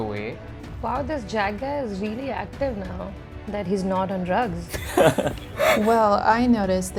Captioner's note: laughter